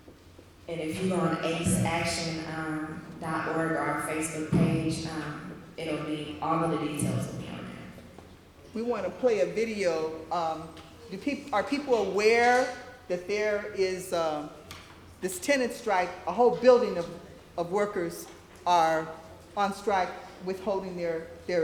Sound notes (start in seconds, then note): none